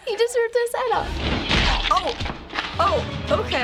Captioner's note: skull whacks